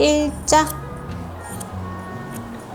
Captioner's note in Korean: 가위질 소리